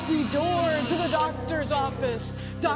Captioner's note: door creaking